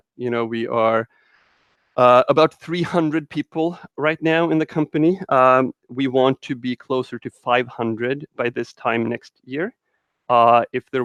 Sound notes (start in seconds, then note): none